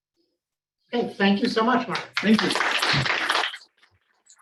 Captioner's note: applause